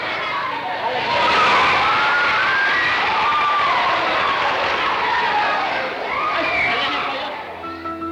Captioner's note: applause